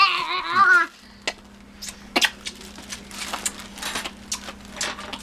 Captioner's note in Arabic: التقبيل الأصوات